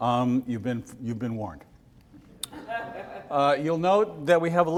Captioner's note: audience laughs